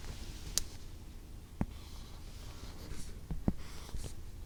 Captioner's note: writing sound